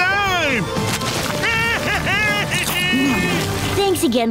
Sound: cheering

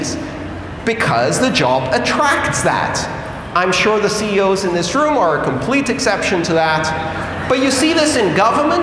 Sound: laughter

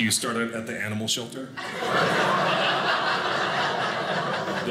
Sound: audience laughing

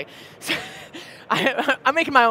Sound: chuckles softly

